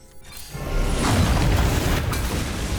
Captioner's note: rumbling, cracking